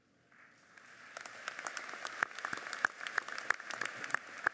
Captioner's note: audience applauds